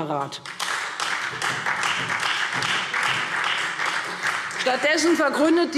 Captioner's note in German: Beifall Freie Demokraten